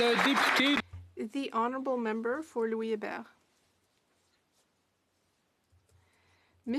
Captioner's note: applause